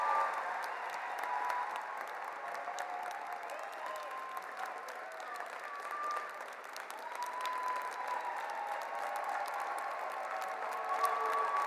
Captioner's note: cheers and Applause